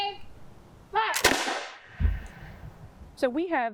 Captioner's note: rifle firing